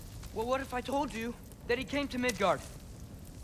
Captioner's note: none